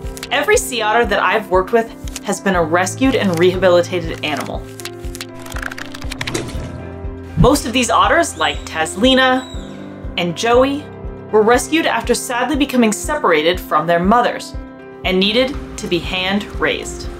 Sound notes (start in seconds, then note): 4.1 pages flipping sound effect; 4.7 background music; 6.3 water splashing noise